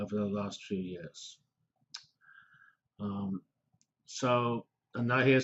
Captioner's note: pause